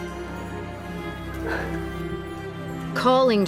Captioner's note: annaline exhaling